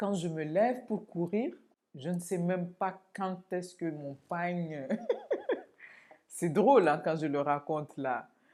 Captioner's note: laughs